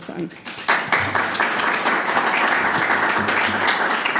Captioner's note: audience applauds